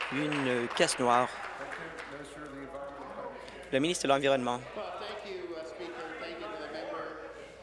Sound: applause

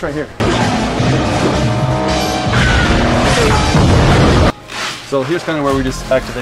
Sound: movie music; explosions

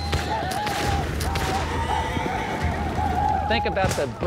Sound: gunshots; arikara war cries

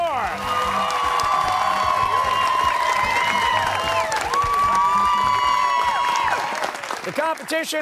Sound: cheers and applause

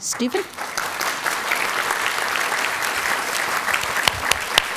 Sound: audience applauding

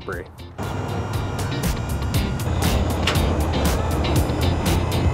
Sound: hydraulics being operated

